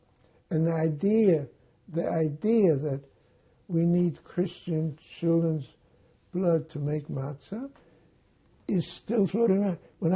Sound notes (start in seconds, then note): none